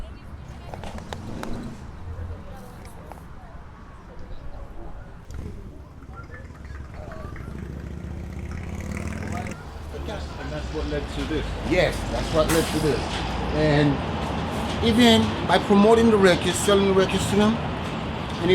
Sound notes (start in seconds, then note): 0.3 background chatter; 7.3 cars driving